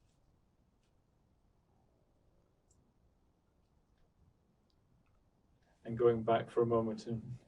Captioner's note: pauses 6 seconds